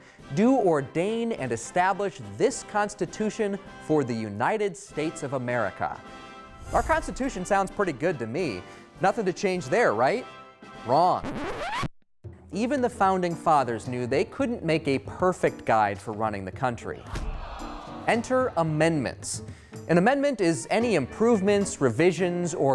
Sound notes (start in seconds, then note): 11.2 record scratches